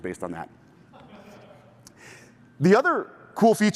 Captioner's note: laughter